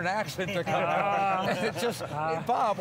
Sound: laughing

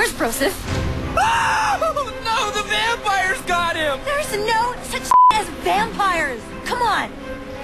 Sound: groans; screams

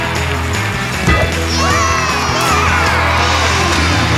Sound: cheering

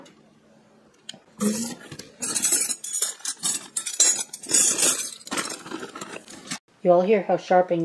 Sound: sound of box scraping against side and then coin silver clinking together

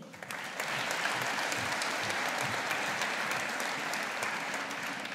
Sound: audience applauding

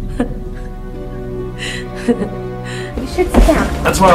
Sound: Janet laughs

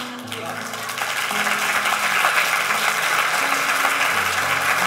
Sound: congregation applauds

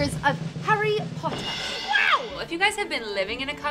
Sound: air whooshing; someone screaming

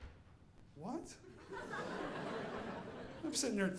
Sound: audience laughing

